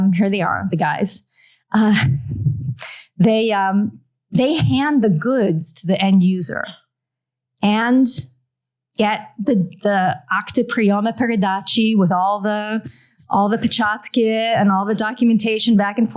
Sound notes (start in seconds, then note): 10.0 non-english